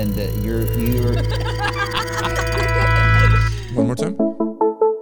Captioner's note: people laughing; bright music